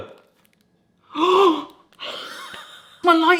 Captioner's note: gasping